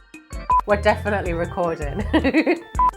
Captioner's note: laughs